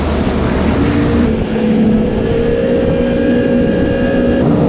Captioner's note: jet ski roaring